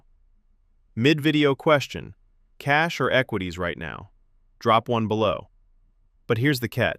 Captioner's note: thoughtful